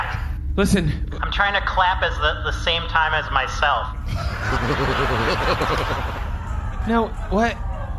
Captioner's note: audience laughs and then makes sad noises